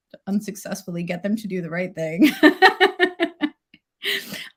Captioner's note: laughs